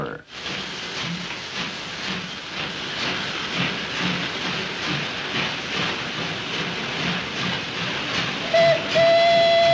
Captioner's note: train chugging; choo-Choo